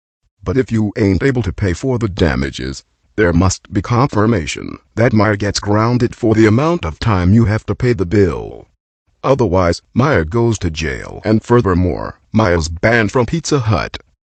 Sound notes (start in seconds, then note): none